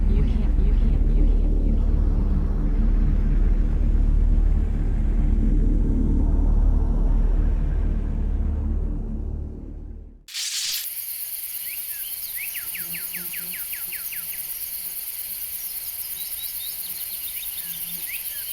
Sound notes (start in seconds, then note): 10.2 screen crackles; 10.3 bugs buzzing; 11.4 birds chirping